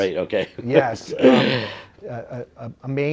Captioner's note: cough